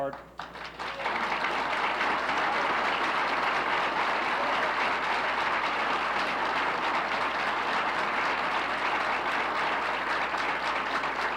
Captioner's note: applauses